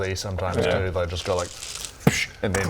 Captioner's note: pssh